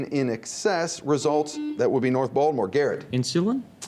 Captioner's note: buzzing